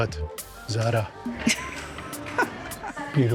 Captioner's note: laughs